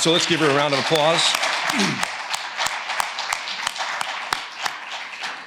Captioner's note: attendees applauding